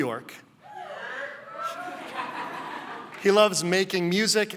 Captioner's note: laughing